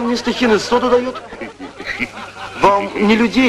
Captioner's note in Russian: смех